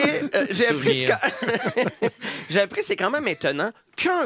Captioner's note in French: rires